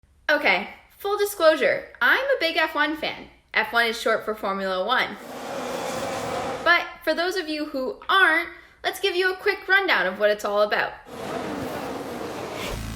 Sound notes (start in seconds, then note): 5.2 roaring car engines; 11.2 cars racing